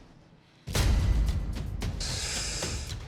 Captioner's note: inhales